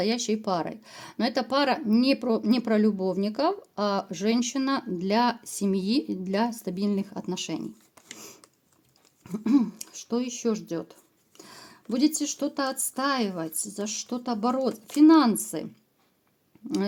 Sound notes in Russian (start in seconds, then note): 9.3 откашливается